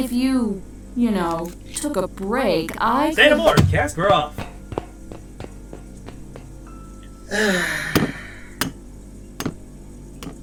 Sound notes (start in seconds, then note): 7.2 cast sighs